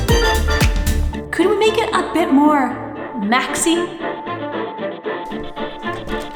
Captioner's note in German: echoige Töne in der Ferne